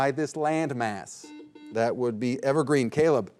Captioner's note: buzzer buzzing